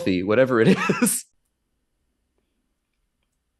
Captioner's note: Professor Greenlight laughs